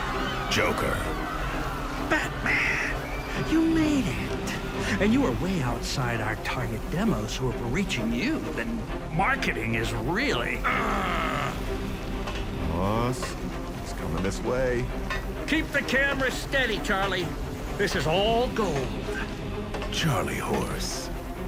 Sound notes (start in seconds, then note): 10.3 dramatic music; 12.1 footsteps approaching